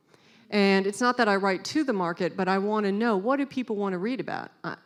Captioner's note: none